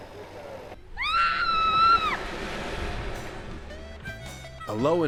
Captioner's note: screaming